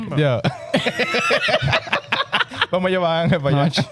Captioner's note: laughing